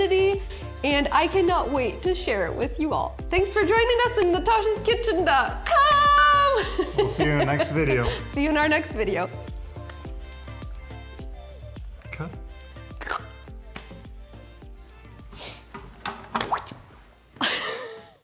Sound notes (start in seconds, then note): 6.4 laughing; 10.6 bright upbeat music; 17.4 Natasha laughing